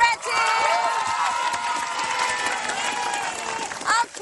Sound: cheering

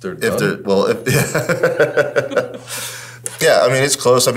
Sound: both laughing

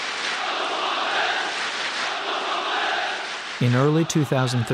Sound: audience chanting

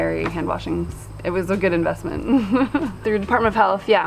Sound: chuckles

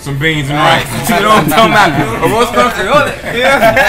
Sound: men laughing

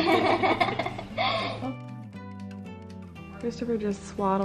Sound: giggles

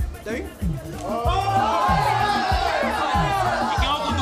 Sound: screams

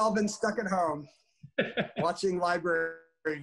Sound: laughs

